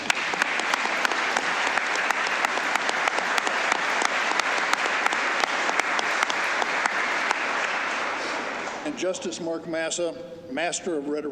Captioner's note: applause